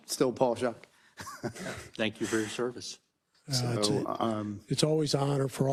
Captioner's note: laugh